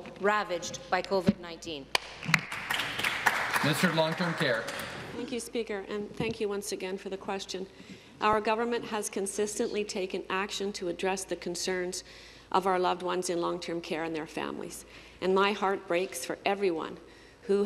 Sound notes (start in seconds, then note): 5.6 applause